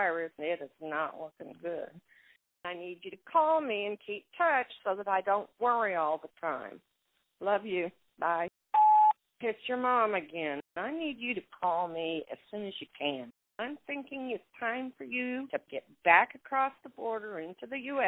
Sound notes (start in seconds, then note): 8.7 phone beeps